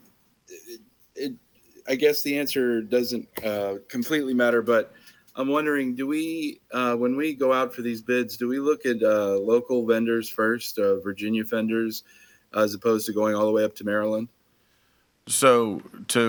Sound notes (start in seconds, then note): none